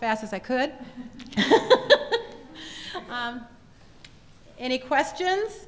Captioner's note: laughs